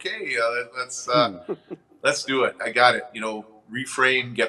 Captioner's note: laughing